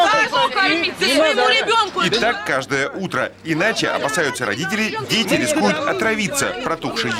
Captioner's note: people arguing loudly